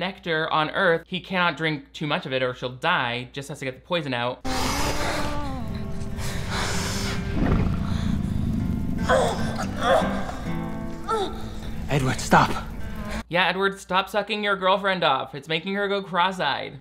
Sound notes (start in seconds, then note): 4.5 labored breathing; 4.9 gentle music begins; 7.6 Bella retching; 7.6 fire burning